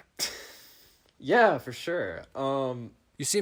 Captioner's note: laughing